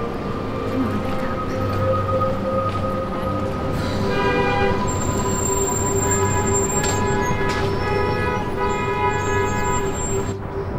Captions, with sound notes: Come on. Pick up. (CAR HORNS) (CHAOTIC HORNS AND TRAFFIC)